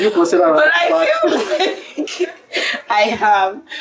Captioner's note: laughs